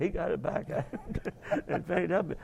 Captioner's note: both laugh